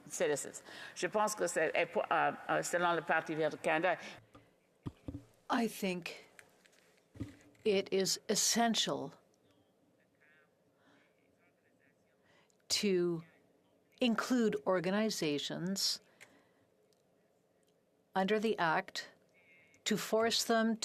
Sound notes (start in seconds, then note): 4.4 speaking French